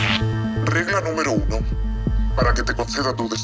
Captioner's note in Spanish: voz distorsionada